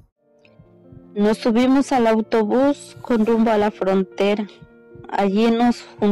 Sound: woman speaking in foreign language

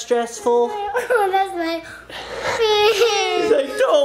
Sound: cries

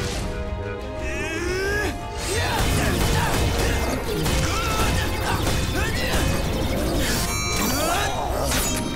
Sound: grunting

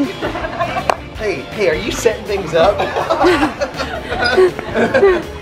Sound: laughs

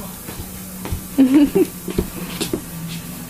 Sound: laughs

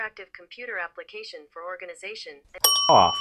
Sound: bell dings

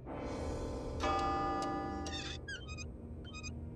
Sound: clock chiming

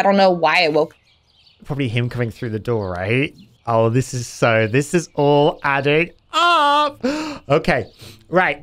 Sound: gasp

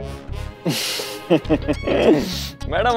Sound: chuckling

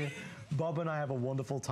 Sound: laughter

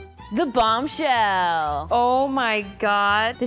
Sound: voiceover

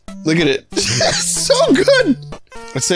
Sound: laughs

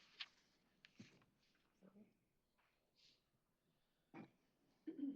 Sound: speaking foreign language

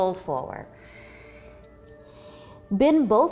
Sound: exhaling

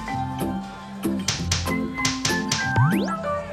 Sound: slapping x3

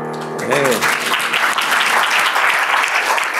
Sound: applause

